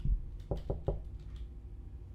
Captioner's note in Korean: 노크소리